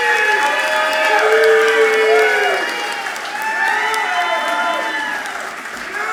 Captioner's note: audience clapping and cheering loudly